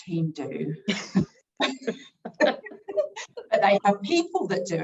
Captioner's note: everyone chuckling